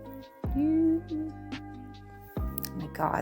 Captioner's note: humming